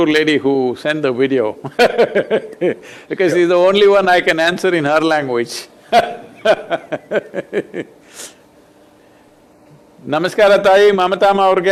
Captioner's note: laughs